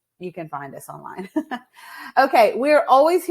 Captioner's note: laughs